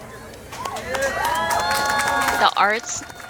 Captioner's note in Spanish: audiencia aplaudiendo